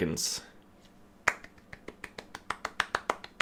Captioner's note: claps